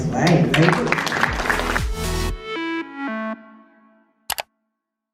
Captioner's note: upbeat music; applause